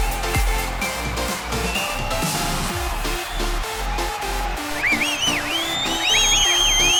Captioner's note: applause